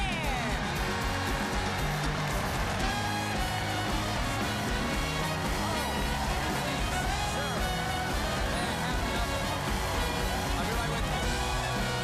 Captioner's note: cheers and applause